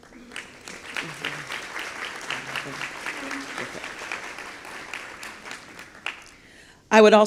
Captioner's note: applause